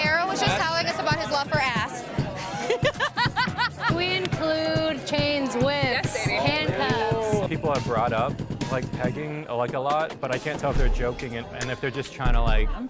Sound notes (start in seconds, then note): 2.3 laughing